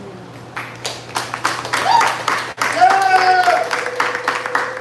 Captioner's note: applause